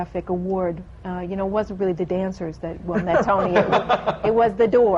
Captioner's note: laughter